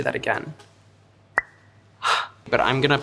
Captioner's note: cap pops; gasps